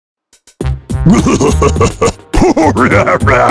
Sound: laughing

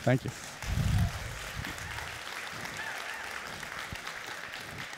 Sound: clapping

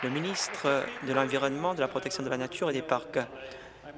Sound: applause

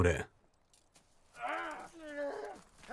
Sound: groaning

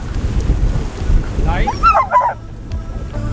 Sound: Caesar is barking

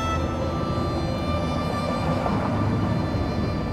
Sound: cars driving

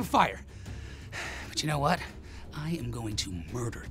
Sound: sighing

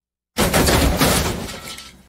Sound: crash!

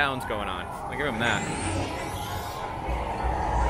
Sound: sound of a ship taking off

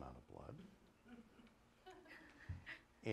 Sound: laughter

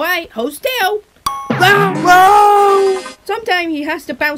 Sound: bounces and screams

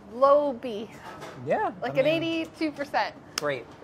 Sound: laughs

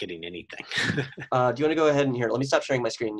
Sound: laughs

